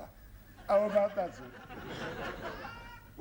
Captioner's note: laughter